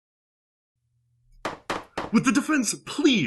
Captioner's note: gavel banging